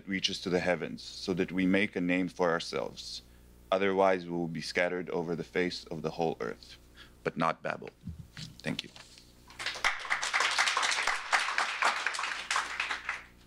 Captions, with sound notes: reaches to the heavens so that we make a name for ourselves. Otherwise, we will be scattered over the face of the whole Earth, but not Babel. Thank you. [APPLAUSE]